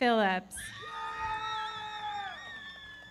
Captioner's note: audience cheering; everybody clapping